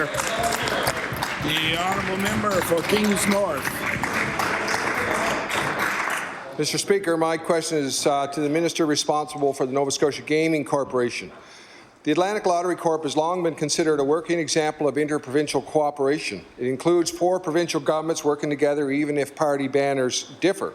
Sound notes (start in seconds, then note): 9.3 applause